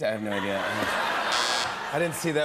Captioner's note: laughter; buzzer